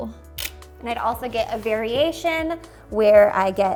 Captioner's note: camera shutter clicks